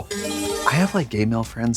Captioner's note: bright chime